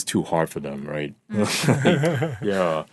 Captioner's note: all laughing